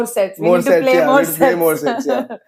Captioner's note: laughs